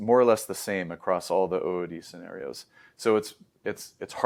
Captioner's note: inhales